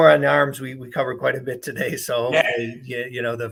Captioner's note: laughs